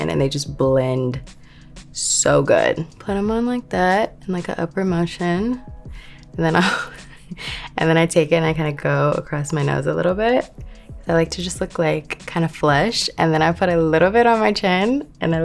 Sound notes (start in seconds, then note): 6.4 Lori laughing